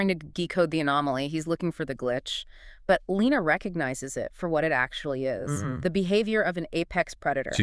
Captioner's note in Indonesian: glitch